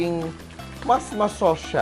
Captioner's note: sizzle